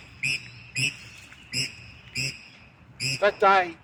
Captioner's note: birds squawk loudly